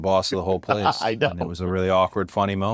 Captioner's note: laugh